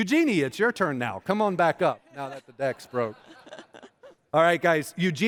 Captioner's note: laughter